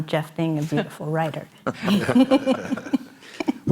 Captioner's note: laughs